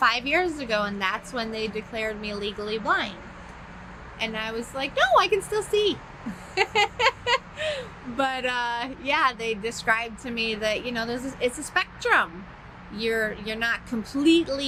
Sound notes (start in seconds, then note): 6.2 laughs